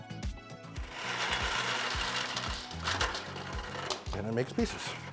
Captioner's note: upbeat music; light rustling